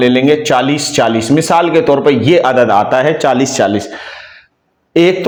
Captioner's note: gasp